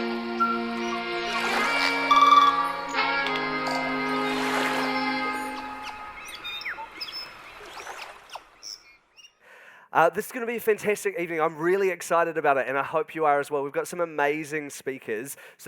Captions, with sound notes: (light music) (whistling) (waves lapping) - This is going to be a fantastic evening. I'm really excited about it, and I hope you are as well. We've got some amazing speakers.